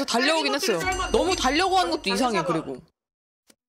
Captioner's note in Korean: 회의 종이 울리는 소리